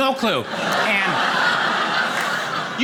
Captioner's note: audience laughing